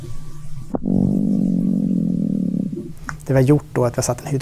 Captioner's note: humming sound